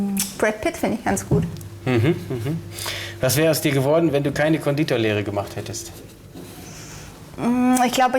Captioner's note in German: gelächter